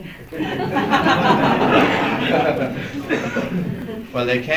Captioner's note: laughter